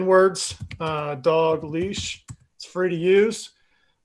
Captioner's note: types on keyboard